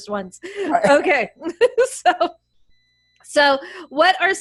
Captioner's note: giggles